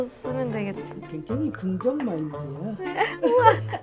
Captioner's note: impressed